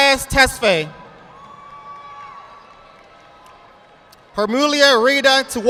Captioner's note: audience applauding